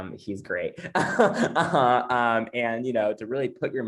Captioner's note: laughs